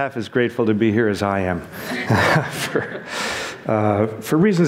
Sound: laughs

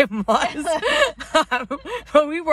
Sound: both laughing

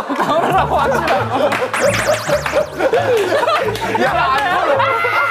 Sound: laughing

